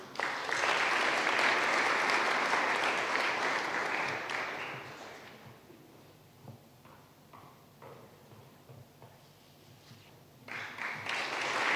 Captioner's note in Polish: oklaski